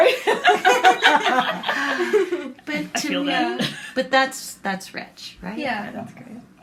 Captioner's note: laughter